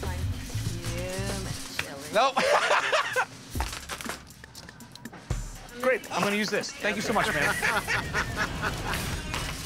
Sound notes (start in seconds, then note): 2.4 laughs; 7.0 laughter